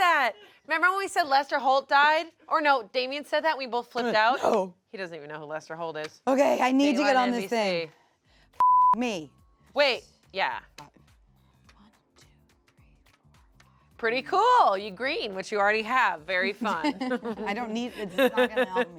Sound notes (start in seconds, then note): 8.6 beep; 16.4 laughs